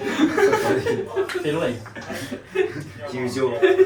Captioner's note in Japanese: 笑い